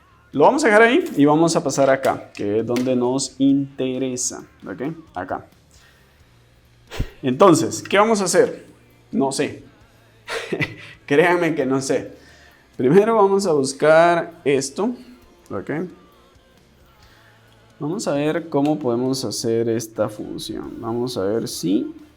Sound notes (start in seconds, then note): 10.2 laughs